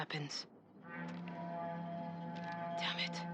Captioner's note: alarm